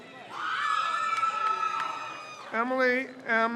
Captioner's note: crowd cheers